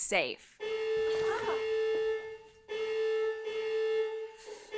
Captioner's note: alarm blaring